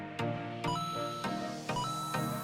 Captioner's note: ba ding!